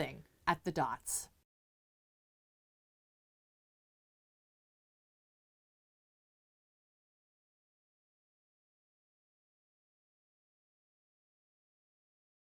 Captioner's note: no Sound Present